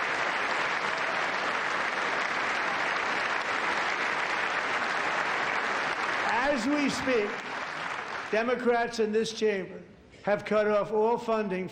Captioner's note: cheers and applause